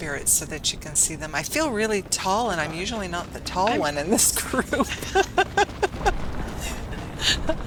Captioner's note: laughter